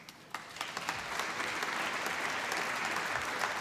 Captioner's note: applause